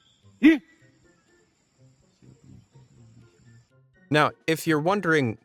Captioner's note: cameraman grunts